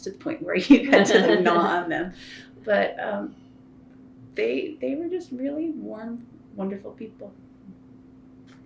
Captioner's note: laughter